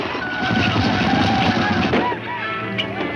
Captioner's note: gun shots